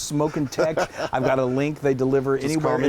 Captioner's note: laugh